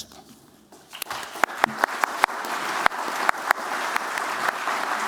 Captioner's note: applause